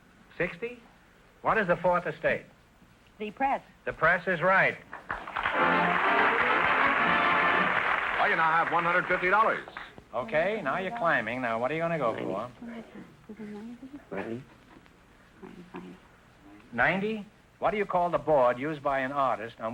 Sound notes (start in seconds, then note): 5.1 triumphant music & applause; 12.8 whispering